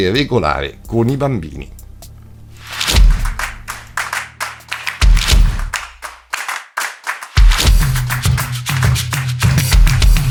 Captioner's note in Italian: Applauso